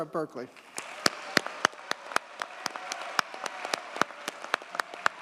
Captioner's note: audience cheers and applauds